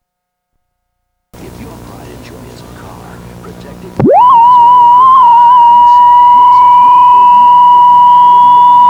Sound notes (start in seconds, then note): 1.4 high pitched static